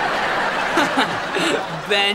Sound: laughing

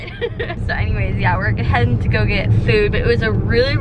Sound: laughs

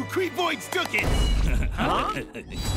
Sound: laughing

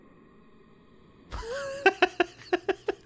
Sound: laughs

